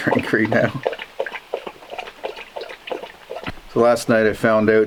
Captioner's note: dog lapping up water